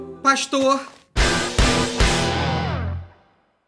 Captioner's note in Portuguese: som de destaque